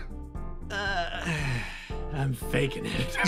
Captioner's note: Etete Sigh